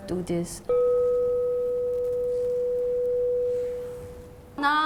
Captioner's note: gong